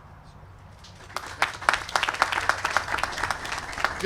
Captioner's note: applause